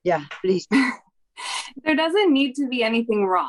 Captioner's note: chuckling